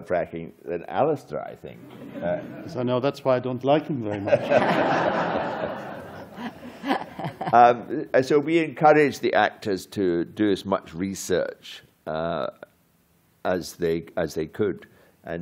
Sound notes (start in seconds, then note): 4.1 laughter